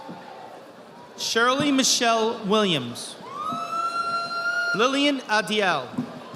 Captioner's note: audience applauding